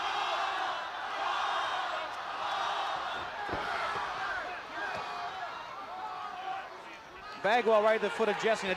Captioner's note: crowd chatter